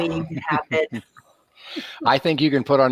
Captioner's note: laughing